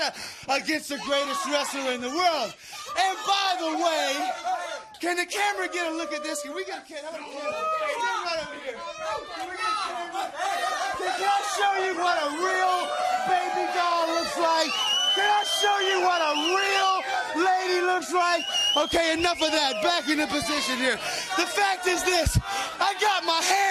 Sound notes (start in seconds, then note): 12.4 crowd chatter; 13.5 crowd cheering